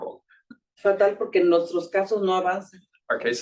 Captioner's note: speaking Spanish